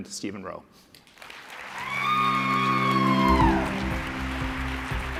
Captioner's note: applause